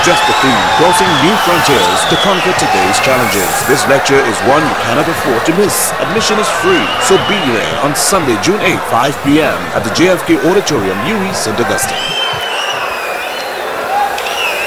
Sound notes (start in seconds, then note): 12.5 wild applause and cheering for 22 seconds